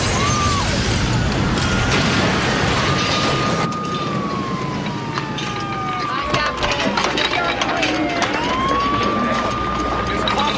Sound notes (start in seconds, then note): 0.0 Стъкло разбиване; 3.9 Сирена плаче